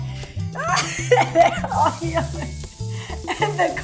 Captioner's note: laughing